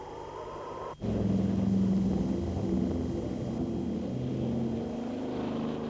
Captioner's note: plane engines rumbling